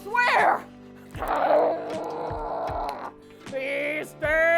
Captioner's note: growling